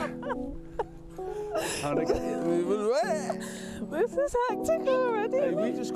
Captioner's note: laughing